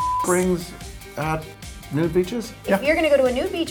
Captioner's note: beep